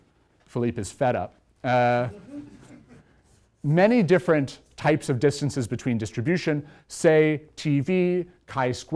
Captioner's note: laughter